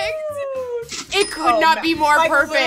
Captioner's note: register ringing